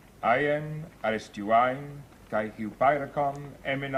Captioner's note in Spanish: Recitan Griego